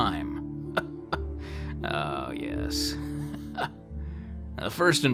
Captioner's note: chuckle